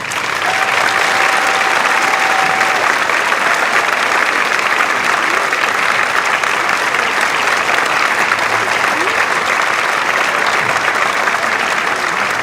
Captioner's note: applause